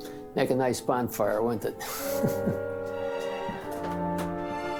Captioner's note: laughs